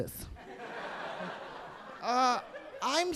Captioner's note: audience laughing